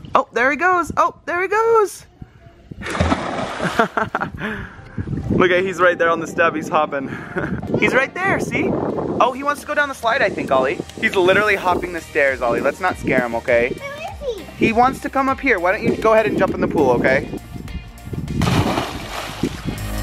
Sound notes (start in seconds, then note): 2.8 splashing; 3.7 laughing; 18.4 splashing